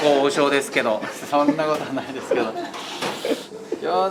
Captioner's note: laughs